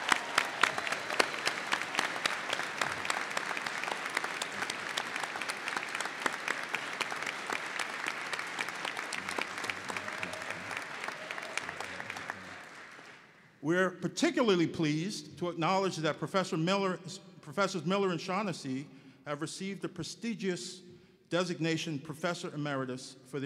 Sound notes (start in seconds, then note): 2.4 applause